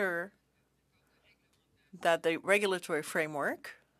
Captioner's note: speaking French